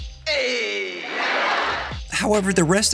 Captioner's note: laughing